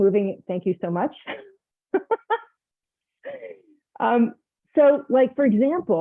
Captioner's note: laughs